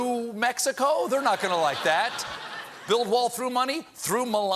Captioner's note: laughter